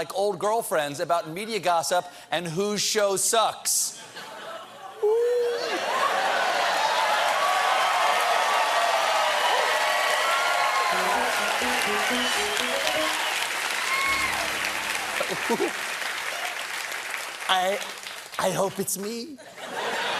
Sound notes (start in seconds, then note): 13.0 cheers and applause; 13.0 piano riff; 19.4 laughter